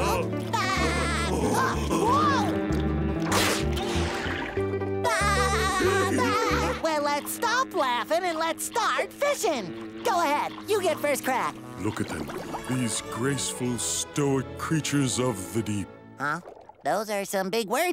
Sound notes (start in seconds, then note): 0.2 laughing; 5.1 laughing